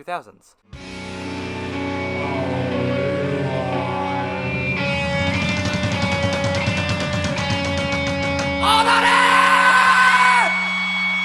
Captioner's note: yelling